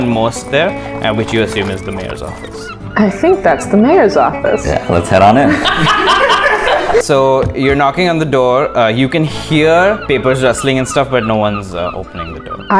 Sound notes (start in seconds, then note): 5.0 laughter